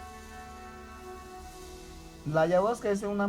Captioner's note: in Spanish